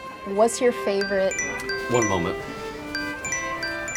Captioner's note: phone dings